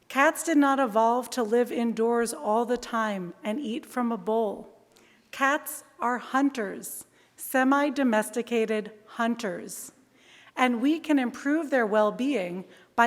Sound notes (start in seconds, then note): none